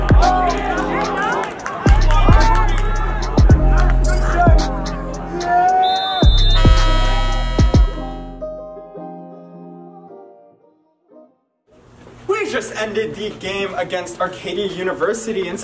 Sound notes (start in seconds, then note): 5.5 whistles; 5.7 horn honks